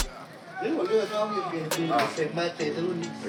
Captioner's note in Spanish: hablan de fondo